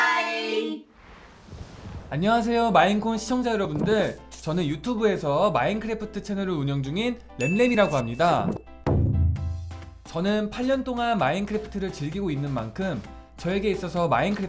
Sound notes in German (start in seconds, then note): 2.3 nicht-englische rede